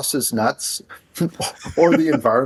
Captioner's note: laughing